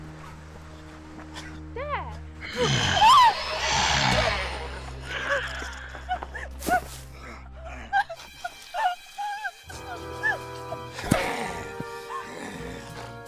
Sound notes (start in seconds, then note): 2.5 screams; 6.4 crying; 11.1 struggling